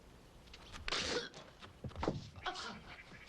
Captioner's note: Tommy spits; gasping